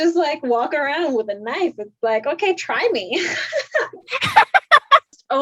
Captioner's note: laughs